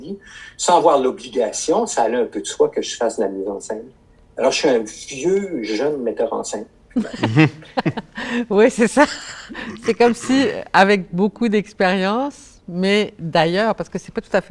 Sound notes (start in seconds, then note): 7.0 laughter